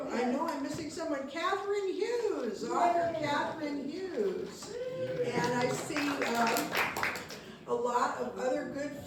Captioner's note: applause